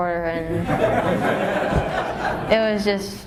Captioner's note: laughter